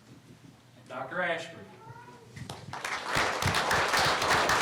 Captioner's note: applause